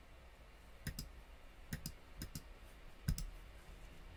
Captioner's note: mouse clicking noises